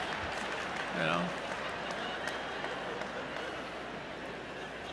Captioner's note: laughter